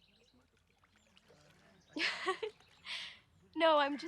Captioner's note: laughs